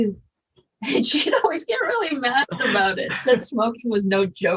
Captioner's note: laughing